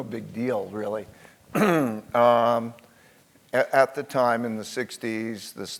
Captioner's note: cough